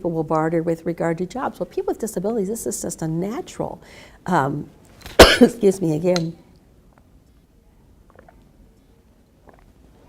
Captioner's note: coughs